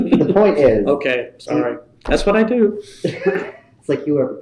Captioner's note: laughter